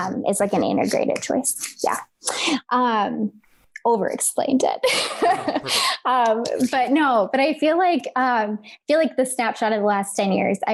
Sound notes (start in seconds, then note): 4.9 laughs